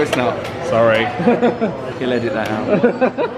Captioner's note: laughing